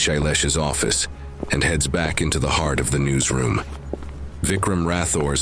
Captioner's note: sound of a girls steps leaving the room